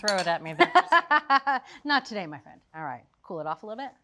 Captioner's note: laughs